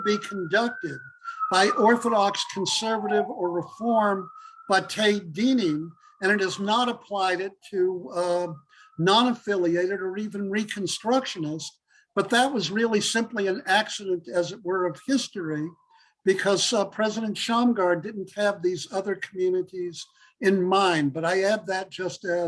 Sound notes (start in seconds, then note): 4.9 Hebrew